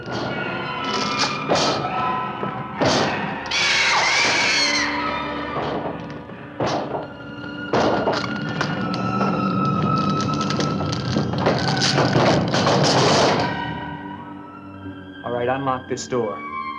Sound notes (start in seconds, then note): 1.5 whooshing and thudding; 5.5 mysterious music continues; 6.5 thudding and cracking